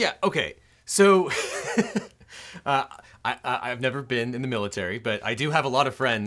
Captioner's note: laughs